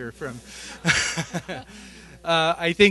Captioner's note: laughter